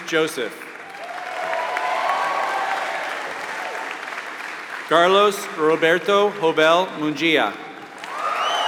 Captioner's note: applause